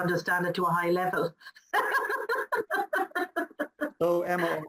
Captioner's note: laughs